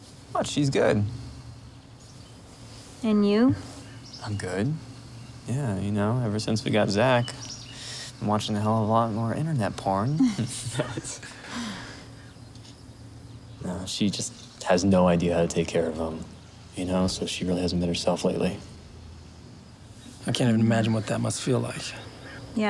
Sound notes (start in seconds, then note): 10.0 giggles